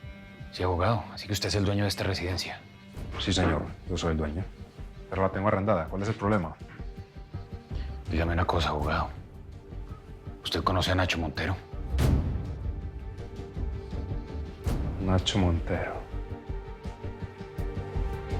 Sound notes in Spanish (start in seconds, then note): none